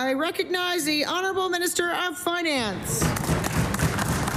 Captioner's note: applause